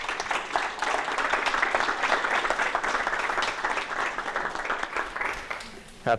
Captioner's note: applause